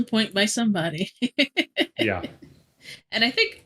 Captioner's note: laughing